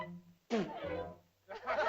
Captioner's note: child spits; laughter